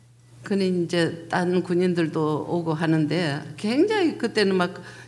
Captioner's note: speaking foreign language